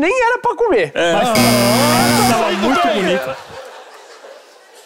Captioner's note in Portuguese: campainha